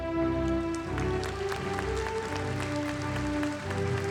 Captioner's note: audience applauding